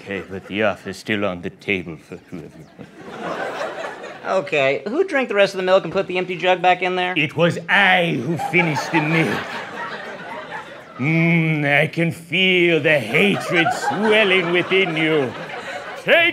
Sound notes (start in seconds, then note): 3.1 laughs